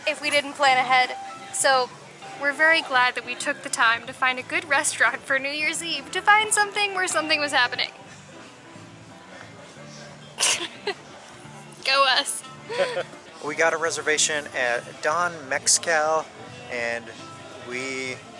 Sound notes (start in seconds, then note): 12.7 laughter